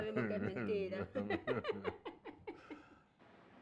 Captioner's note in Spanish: Risas